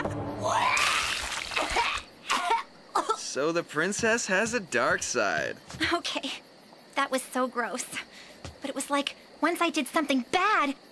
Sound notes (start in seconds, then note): 0.5 Courtney Retching